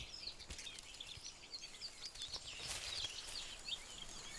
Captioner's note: birds chirping